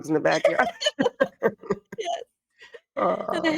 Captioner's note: everyone giggling